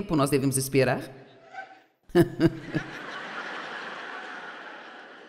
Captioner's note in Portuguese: audiência ri